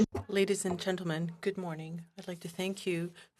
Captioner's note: speaking French